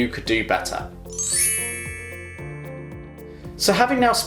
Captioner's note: logo chiming